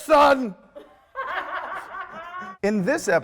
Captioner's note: off-camera laughter